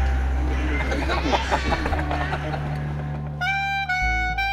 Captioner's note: laughter